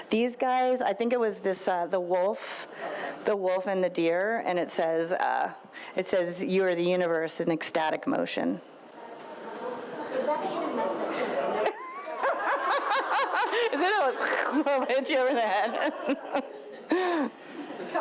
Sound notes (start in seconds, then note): 10.5 woman speaks faintly; 11.5 audience laughs